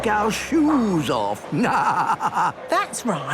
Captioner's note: laughing